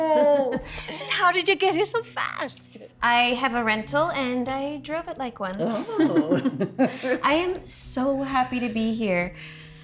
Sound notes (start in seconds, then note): 5.7 Charlotte laughing